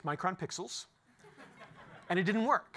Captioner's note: laughter